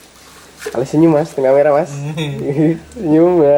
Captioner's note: just laughing